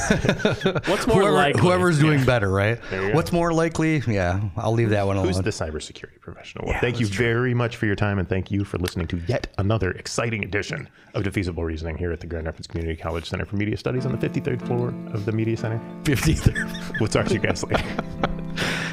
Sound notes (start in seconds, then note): 0.0 laughing; 16.2 laughing